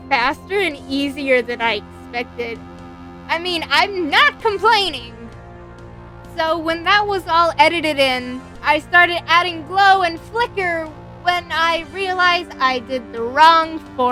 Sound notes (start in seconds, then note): none